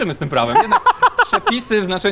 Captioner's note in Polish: śmiech